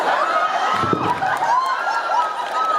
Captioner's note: thud